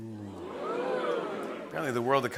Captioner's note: oohing